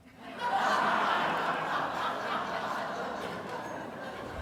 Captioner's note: audience laughing